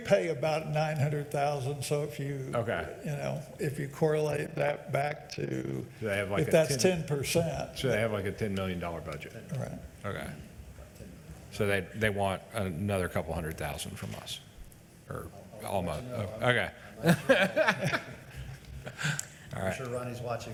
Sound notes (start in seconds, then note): 17.0 laughs